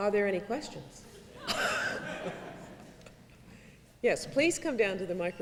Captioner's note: laughing